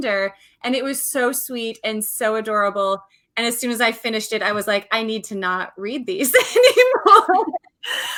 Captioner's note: laughs